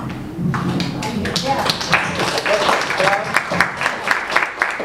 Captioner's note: audience applauds